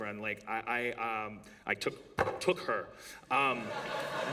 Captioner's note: banging sound; laughter